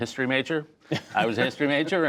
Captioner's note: laughter